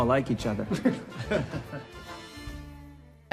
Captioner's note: chuckling